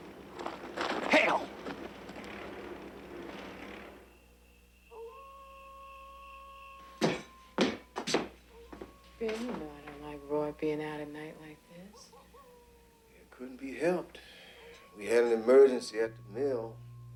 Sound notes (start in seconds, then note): 5.2 coyote howling